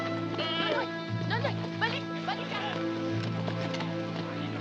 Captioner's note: speaking Tagalog